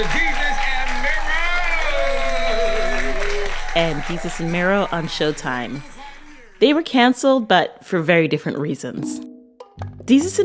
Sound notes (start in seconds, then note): 2.2 soundbite of tv show, "desus & mero"